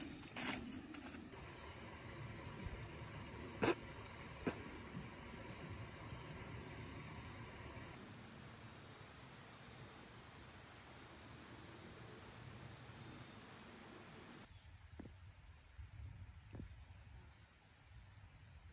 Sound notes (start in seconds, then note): 3.6 snorts